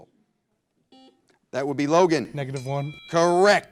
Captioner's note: buzzer blares